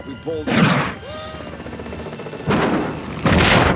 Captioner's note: gunshot